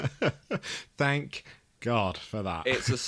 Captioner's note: chuckles